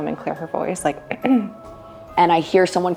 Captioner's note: ahem